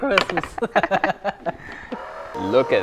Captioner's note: laughs